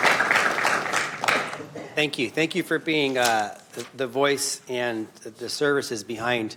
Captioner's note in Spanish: aplausos